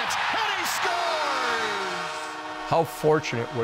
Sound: crowd cheering; horn blowing

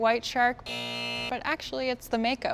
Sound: buzzer buzzing

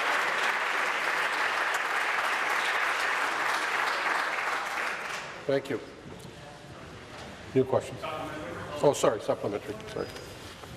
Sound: applause

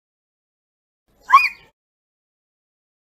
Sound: scream

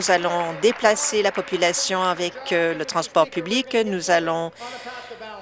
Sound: applause

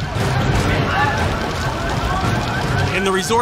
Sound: screaming

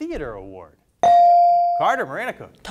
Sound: bell dings

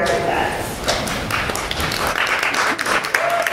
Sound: applause and cheers

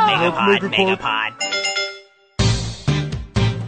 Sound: action music; graphics dinging

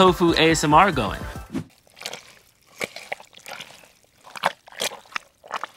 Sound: squelching sound

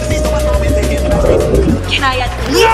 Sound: chomp

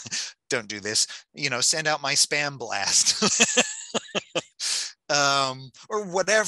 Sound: laughing

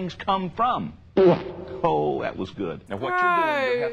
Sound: loud fart

